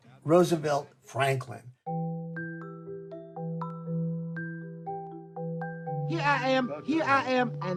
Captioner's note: soundbite of tv show, "sesame street"